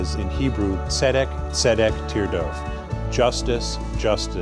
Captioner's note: speaks Hebrew